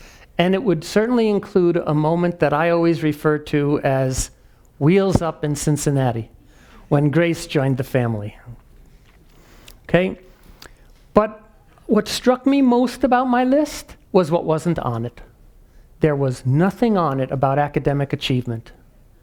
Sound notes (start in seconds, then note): none